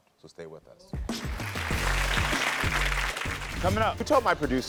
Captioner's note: audience applauding